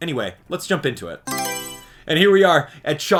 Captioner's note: Mario Selection Sound